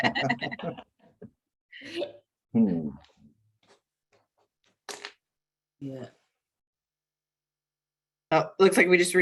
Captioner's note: laughter